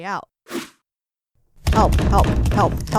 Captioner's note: woosh